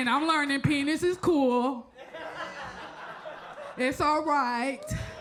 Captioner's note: audience laughs